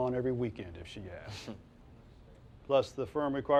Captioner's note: Silk chortles